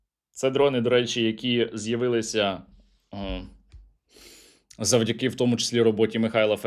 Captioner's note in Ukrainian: сопіння